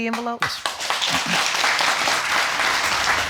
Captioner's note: audience clapping